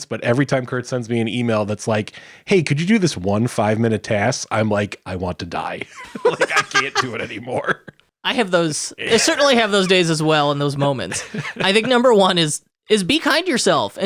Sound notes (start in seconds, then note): 5.7 laughing; 5.7 laughs